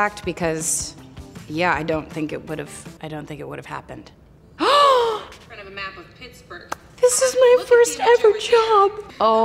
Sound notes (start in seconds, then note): 4.5 Hailee Gasps